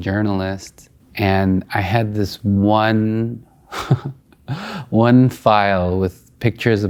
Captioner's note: laughing